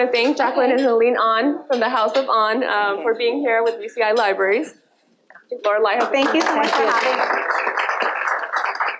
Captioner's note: applause